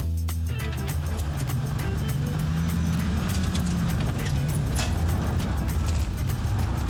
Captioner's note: car revving, drifting